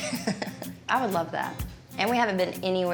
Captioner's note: laughs